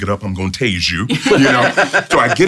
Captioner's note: laughs